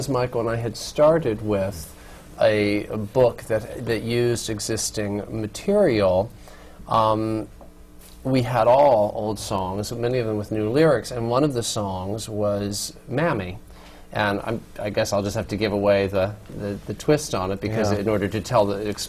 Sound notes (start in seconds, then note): none